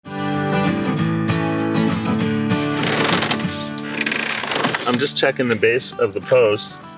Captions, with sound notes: [Creaking sounds] I'm just checking the base of the post